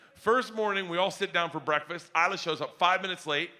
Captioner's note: none